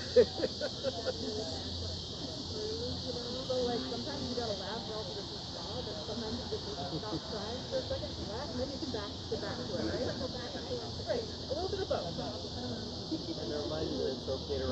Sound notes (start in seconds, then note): 0.0 person laughing; 6.3 crickets chirping